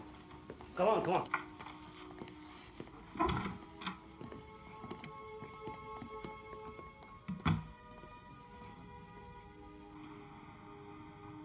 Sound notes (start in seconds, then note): 7.3 door thuds; 8.2 eerie music